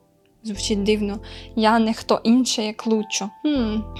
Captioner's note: in Ukrainian